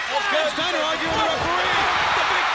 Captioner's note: crowd cheering